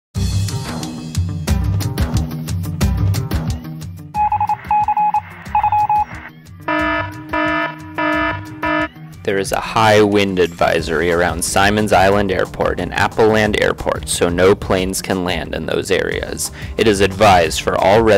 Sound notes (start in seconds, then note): 4.0 morse code; 6.6 alarm